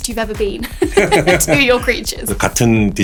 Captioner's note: laughs